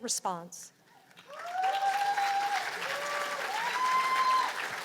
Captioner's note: cheers and applause